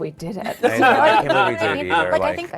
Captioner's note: everyone laughing